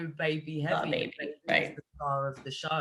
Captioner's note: audio cutting out